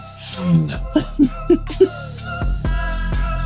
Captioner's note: laughing